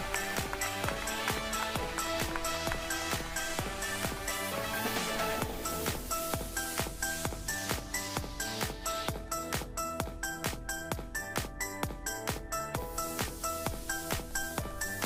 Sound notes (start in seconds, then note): 0.0 cheering and applauding; 0.0 applauding